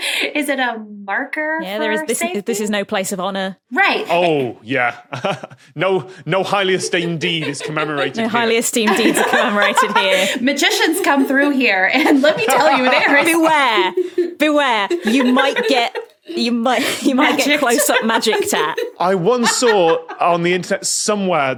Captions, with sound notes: is it a marker for safety? Yeah, this is no place of honour. Right. Oh yeah. (chuckles) No highly esteemed deed is commemorated here. No highly esteemed deeds are commemorated here. (laughs heartily) Magicians come through here. And lemme tell you! (belly laughs) Beware! Beware! You might get... (cracks up) You might get closeup magic tat. I once saw on the internet somewhere